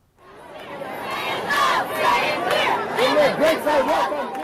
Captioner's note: crowd